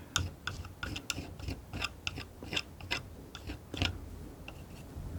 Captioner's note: tapping